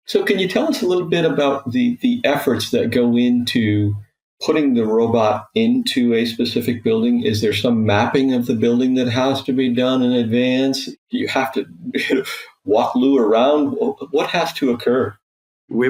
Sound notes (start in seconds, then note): 11.8 chuckling